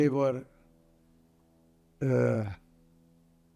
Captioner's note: pauses 8 seconds